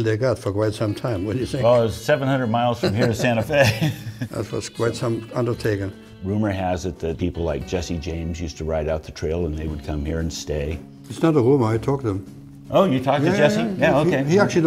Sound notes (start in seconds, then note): 2.7 both chuckle